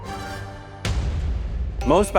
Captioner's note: metal slamming